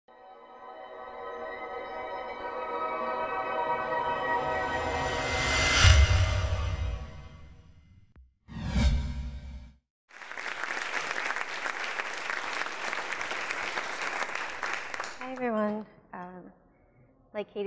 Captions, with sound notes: (electronic music) (whooshing) (audience applauding) - Hi everyone.